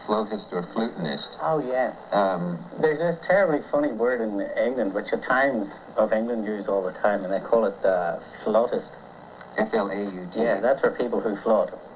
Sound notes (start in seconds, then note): none